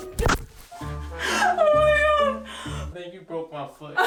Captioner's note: comical music; laughing